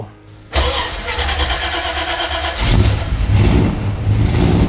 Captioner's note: car engine revving